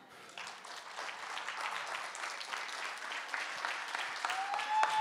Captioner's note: audience applauding